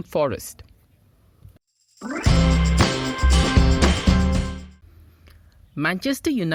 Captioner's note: L'Equipe - in French